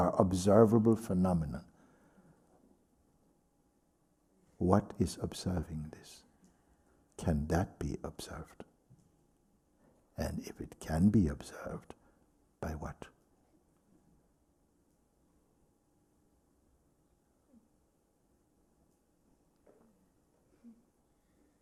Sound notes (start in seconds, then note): 14.9 silence